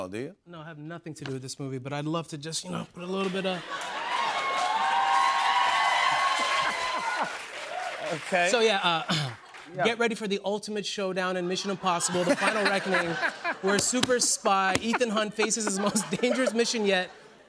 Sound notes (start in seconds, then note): 3.2 cheers and applause; 3.9 laughs